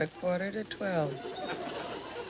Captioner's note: audience laughs